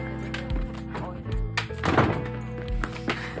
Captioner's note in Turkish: Televizyon sesi; Kapı sesi